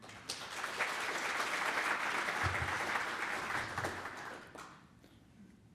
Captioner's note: applause